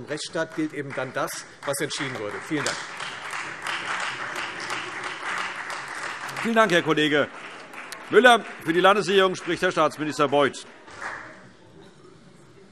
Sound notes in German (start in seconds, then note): 3.3 Beifall Freie Demokraten